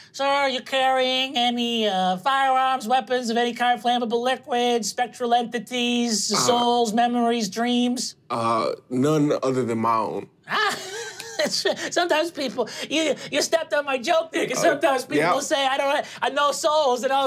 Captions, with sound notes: Sir, are you carrying any firearms, weapons of any kind, flammable liquids, spectral entities, souls, memories, dreams? - None other than my own. (laughs) - Sometimes people you stepped on my joke. Sometimes people say, I don't have any, no souls, and I'll go, oh no!